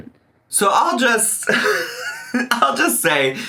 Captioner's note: laughs